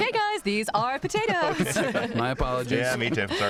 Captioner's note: laughter